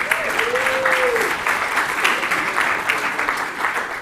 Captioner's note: applause